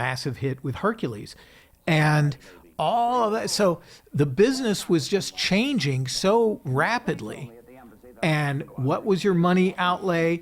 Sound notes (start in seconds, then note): none